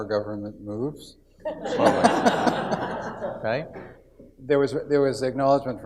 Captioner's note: audience laughs